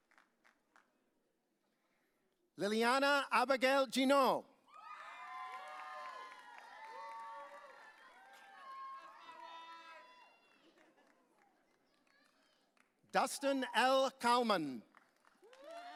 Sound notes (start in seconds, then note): 4.7 audience cheering; 10.7 chuckling